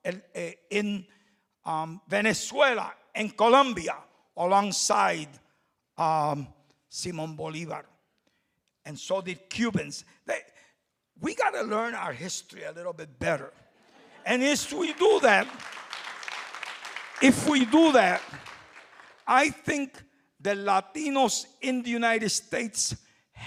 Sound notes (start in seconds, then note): 13.8 audience laughing; 14.2 applause